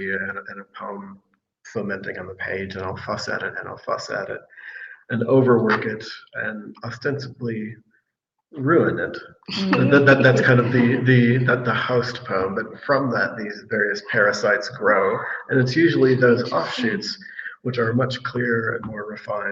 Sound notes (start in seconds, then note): 9.6 all laughing